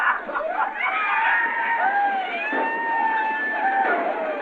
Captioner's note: yelling and gunshots